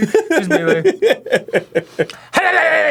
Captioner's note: sniff sniff